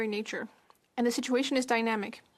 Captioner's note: speaking French